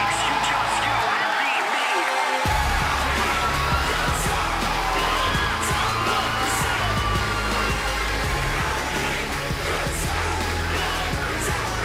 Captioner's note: crowd cheering